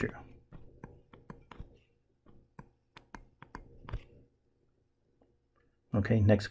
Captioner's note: tapping Sounds